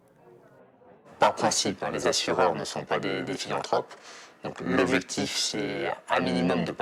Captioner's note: speaking in foreign language